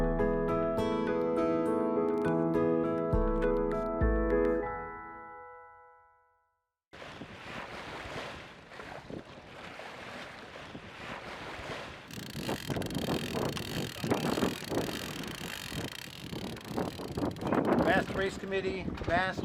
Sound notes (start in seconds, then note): 0.0 soft music; 11.1 water rushing; 15.6 sail mechanism cranking; 16.4 wind blowing